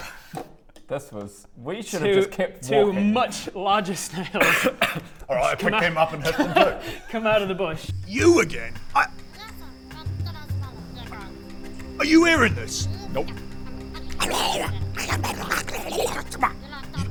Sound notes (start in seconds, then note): 9.7 snarky sylvan swearing